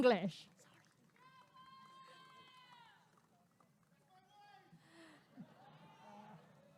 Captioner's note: applause and cheering